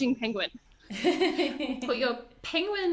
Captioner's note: laughs